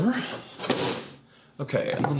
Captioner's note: lid thumping